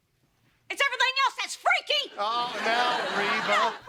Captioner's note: laughter